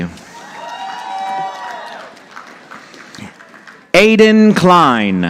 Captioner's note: audience applauding